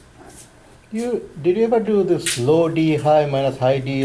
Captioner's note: voiceover